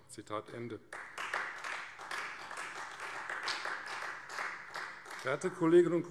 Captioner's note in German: Beifall Freie Demokraten